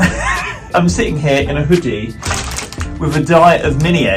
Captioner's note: laughs; packet rustling